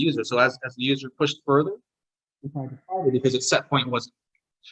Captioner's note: audio distortion